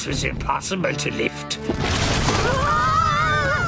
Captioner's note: thud